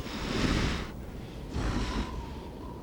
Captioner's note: sniffing